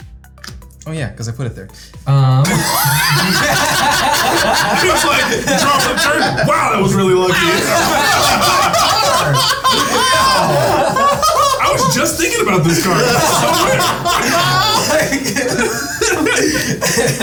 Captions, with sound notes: Oh yeah, 'cause I put it there. (players laughing) - He was like, "Draw for turn. Wow, that was really lucky." - Wow, I can really draw a card! Holy cow! (players laughing) - I was just thinking about this card. It's so weird. (players laughing)